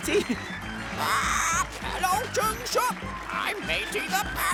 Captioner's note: squawking